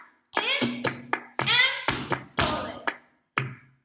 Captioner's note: clap; stomp stomp